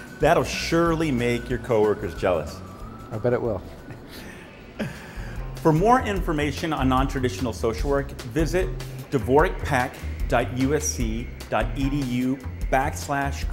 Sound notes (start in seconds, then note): 3.8 laughs